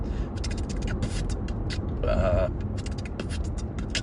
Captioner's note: beat boxing